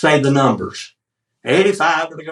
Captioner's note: auction chant